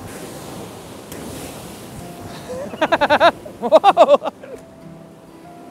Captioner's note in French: Rires